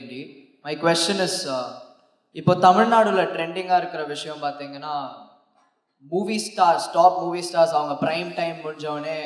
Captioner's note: speaks in Tamil – not transcribed